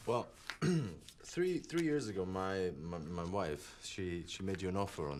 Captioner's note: throat clears